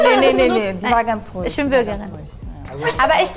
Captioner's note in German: Lachen